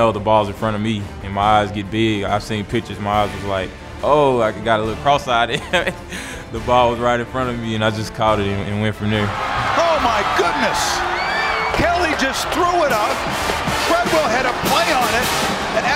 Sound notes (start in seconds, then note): 5.5 laughing; 9.5 crowd cheers; 9.9 voiceover